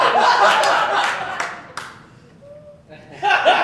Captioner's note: laughter